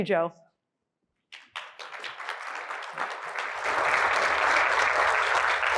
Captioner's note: applause